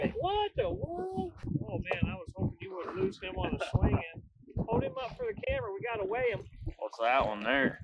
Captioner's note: laughs